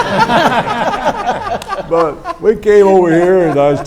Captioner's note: everyone laughs